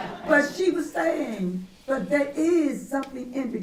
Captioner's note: laughter